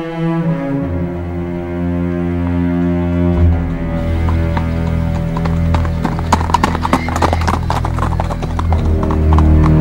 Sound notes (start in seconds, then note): 5.4 horses' Hooves clopping